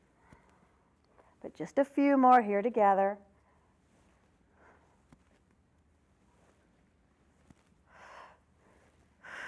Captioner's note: breath sound